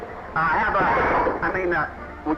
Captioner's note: clattering